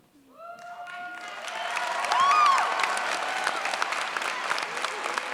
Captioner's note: cheers, applause